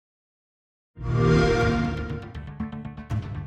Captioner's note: xbox sound